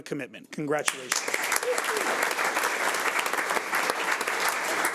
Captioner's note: audience applauds